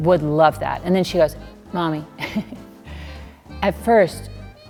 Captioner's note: laughing